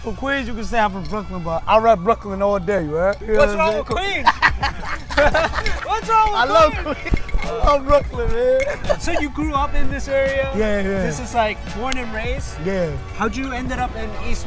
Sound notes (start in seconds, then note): 7.8 laughs